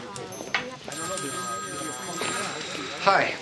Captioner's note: phone ringing